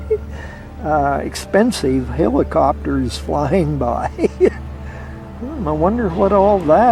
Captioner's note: laughs